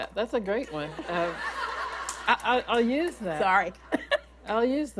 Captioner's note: laughter